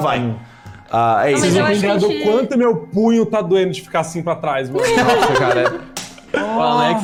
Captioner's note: laughter